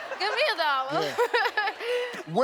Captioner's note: audience laughing; laughs